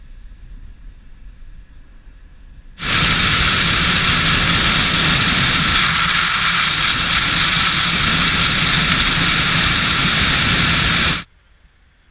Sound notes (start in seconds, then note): 2.8 wind blowing